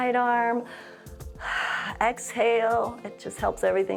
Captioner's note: inhales and exhales